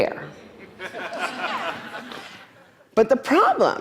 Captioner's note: audience laughs